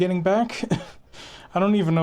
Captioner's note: scoff